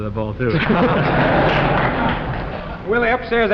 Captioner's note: laughter